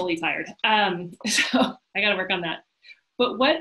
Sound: laughs

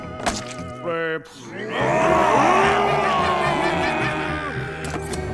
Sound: yelling

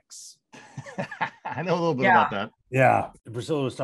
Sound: laughs

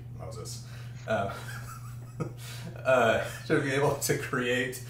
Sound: laughing

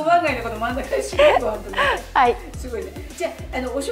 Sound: laughter

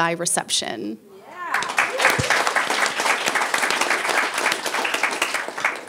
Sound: people applauding

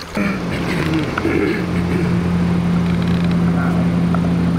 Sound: boat motor roars

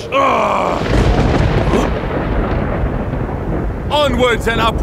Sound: thundering

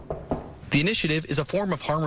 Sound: knocking on wall nat

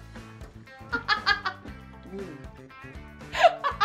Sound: laughs

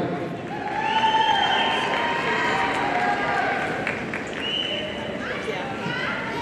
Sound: audience cheering and applauding

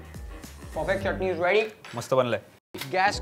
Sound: speaks in Marathi

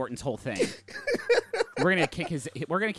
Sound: laughing

